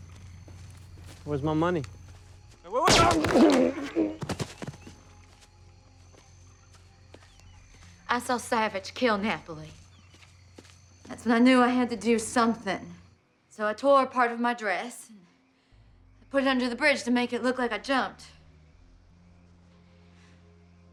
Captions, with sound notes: Where's my money? Wait, wait, wait! [GUNSHOT] I saw Savich kill Napoli. That's when I knew I had to do something. So I tore a part of my dress, and I put it under the bridge to make it look like I jumped.